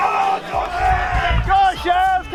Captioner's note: shouting